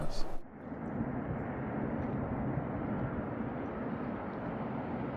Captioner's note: wind blowing over the water